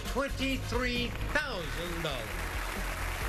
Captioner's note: applause